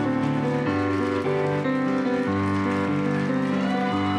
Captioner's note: applause